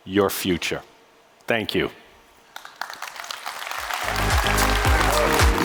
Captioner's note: audience applauding; upbeat music